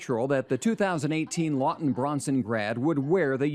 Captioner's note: laughs